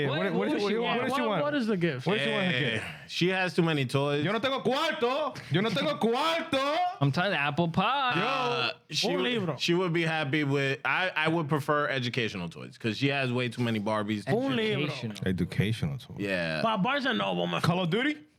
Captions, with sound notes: What does she want? What is the gift? What is the one? She has too many toys. (Speaking In Foreign Language) I'm talking apple pie. She would be happy with, I would prefer educational toys because she has way too many Barbies. (Speaking In Foreign Language) Yeah. Pop bars are noble. Call of duty?